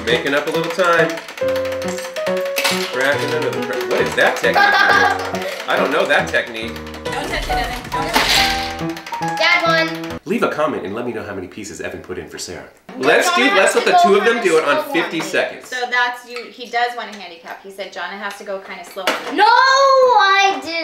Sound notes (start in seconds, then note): 4.2 laughing